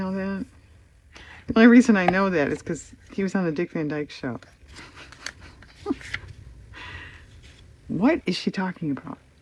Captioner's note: laughs